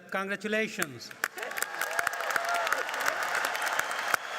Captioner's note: applauding